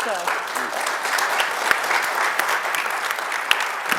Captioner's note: audience applauding